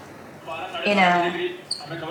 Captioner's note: TV turns on belatedly